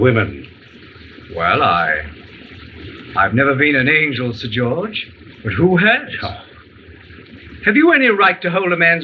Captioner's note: scoffs